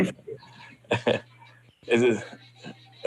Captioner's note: laughs